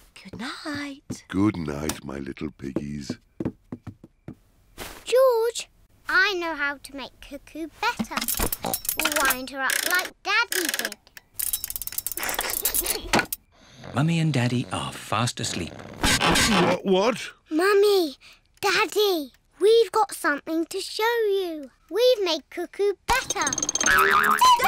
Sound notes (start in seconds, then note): 8.8 oink!; 12.3 laughs; 23.1 clock cuckoos